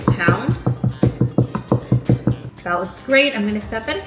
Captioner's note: pestle pounding